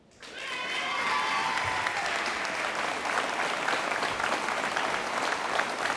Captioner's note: audience applauding